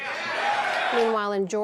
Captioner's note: cheering